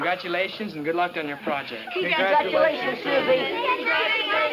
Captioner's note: group chatter